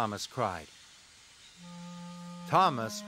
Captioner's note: steam Hissing